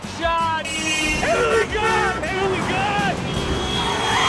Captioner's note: car horns honking